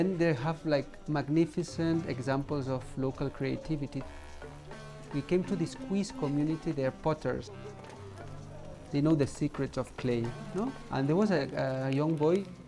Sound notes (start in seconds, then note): 8.1 fire crackling; 8.8 indistinct chatter